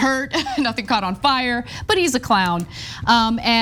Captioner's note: laugh